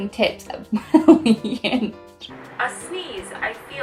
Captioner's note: laughing